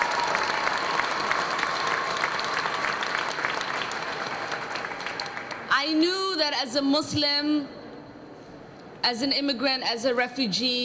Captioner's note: cheers and applause